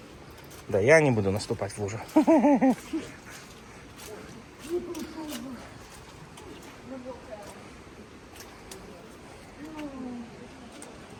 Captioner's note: giggles